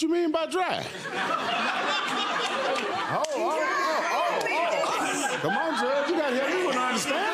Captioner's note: audience laughing